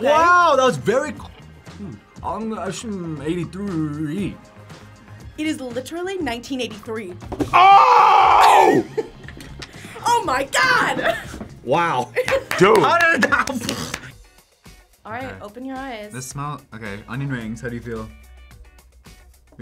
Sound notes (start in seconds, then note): 8.3 React laughs; 12.0 laughs